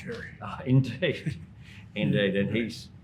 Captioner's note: laughs